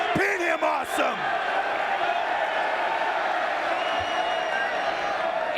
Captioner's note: crowd chattering